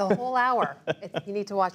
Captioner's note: laughter